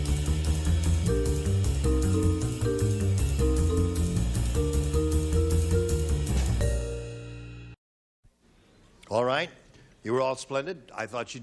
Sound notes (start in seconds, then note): none